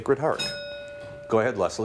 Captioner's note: bell rings